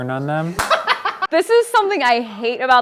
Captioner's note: laughing